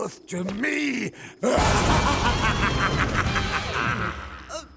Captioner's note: laughter